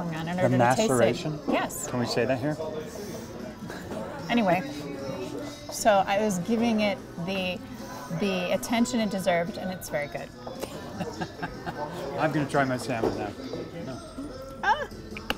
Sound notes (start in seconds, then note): 10.5 laughs